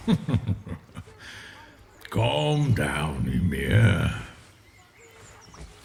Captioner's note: chuckling